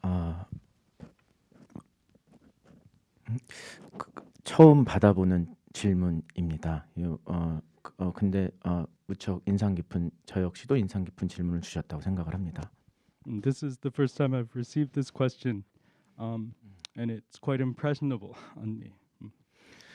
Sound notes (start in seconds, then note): 4.8 speaking in Korean